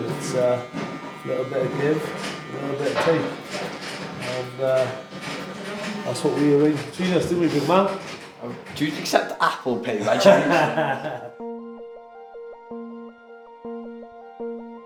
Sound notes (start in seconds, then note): 9.4 laughter